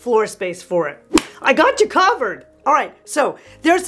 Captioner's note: claps hands